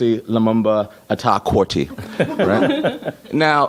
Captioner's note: laughter